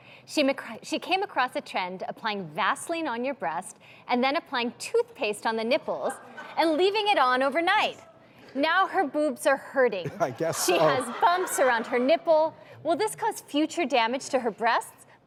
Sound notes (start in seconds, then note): 10.0 laughing